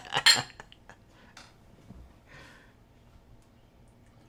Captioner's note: laughing; glasses clinking